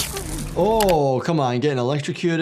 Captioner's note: controller sparking; graphics clicking; actor moaning